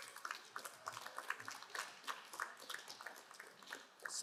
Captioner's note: crowd applauding